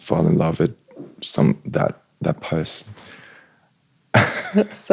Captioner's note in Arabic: ضحك